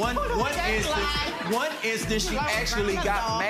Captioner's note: audience laughing